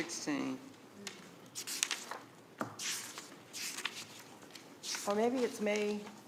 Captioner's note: pages rustling